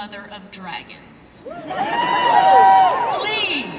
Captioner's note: laughter and cheers